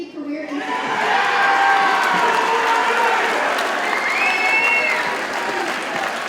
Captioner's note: audience cheers and applauds